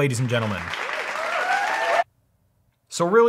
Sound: fake crowd applauds

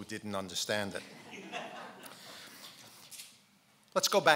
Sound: laughing

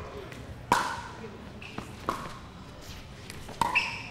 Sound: ball bouncing

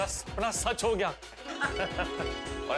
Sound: laughing

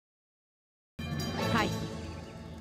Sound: watch ringing sound

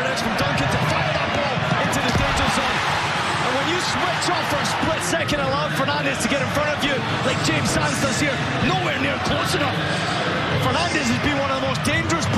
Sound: crowd noise

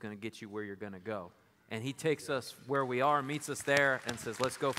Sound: applause

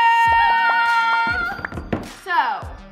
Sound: screaming

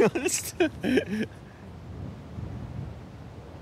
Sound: laughs

